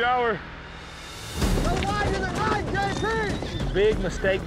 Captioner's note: overlapping yells